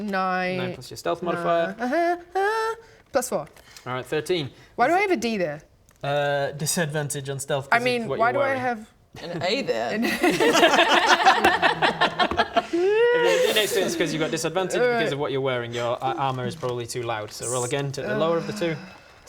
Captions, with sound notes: 9 9 + your stealth modifier Uh huu haa! +4 alright, 13 Why do I have a D there? disadvantage on stealth cos - I mean why do I have - of what you're wearing an A there? *wishful laughter* If you've got a D next to it it's cos you've got disadvantage because of what you're wearing, your armour is probably too loud so roll again, take the lower of the two